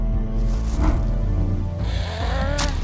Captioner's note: swoosh